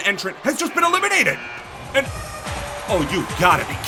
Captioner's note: buzzer buzzes